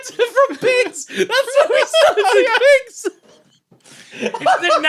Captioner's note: laughs